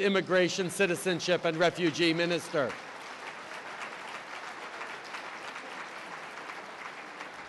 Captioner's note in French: Applaudissements